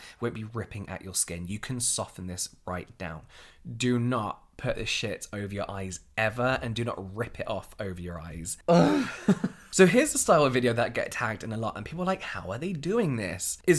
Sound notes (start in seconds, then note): 8.7 groaning